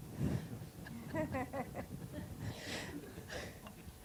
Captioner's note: laughing